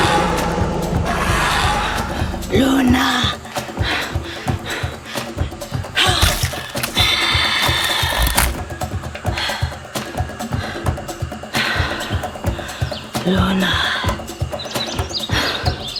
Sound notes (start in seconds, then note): 6.0 arrow thudding; 6.1 dinosaur squishing